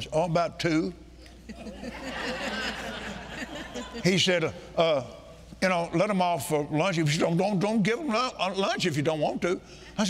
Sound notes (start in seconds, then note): 1.5 congregation laughing